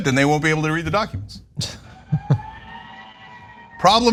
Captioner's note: laugh